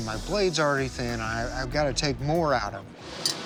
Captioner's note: stammers